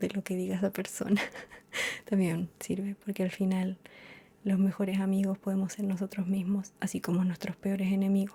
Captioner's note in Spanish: risas